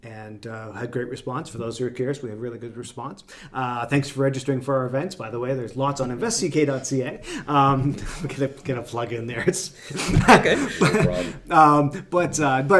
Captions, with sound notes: And I had a great response for those of you curious, we had a really good response. Thanks for registering for our events, by the way, there's lots on investck.ca. I had to get a plug in there. (laughs)